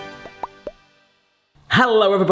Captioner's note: cheerful intro music; blooping